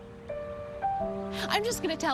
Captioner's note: sighs